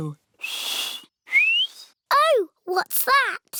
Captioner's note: whistles